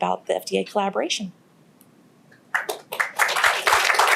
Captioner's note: applause